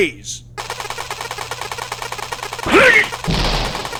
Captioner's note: ray gun “firing”